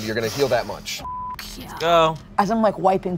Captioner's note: beep